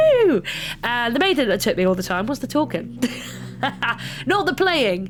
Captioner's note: laughs